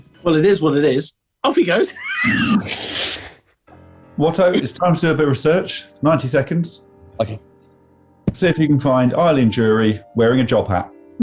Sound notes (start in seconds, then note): 4.5 laughing